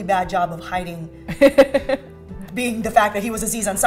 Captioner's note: laughs